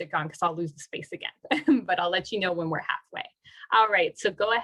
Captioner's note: laughter